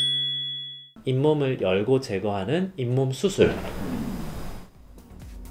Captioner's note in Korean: 꼬르륵